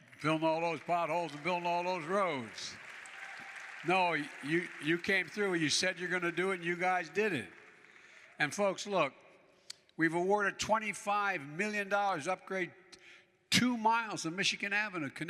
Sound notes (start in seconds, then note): 3.3 applause